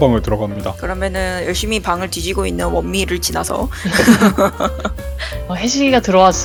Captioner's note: laughs